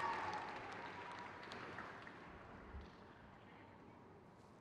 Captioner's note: crowd cheers